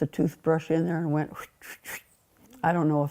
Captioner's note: brushing sounds